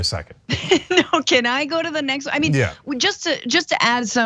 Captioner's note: laugh